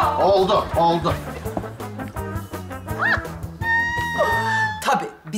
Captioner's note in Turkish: Gülme sesi